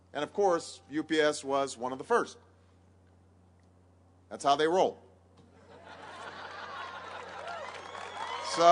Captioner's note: laughter and applause